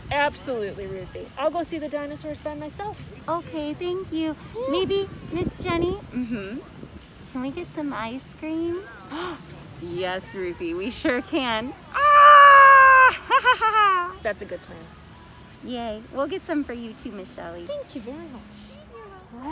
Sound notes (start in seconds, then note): 11.9 excited scream